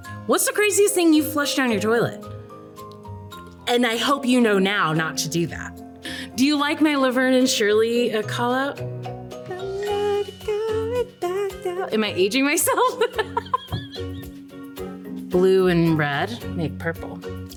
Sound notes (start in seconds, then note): 9.7 sings; 12.7 laughs